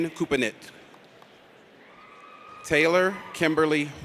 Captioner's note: audience cheers